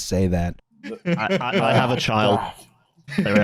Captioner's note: laughter